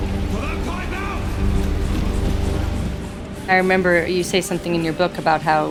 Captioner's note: soundbite of train ambience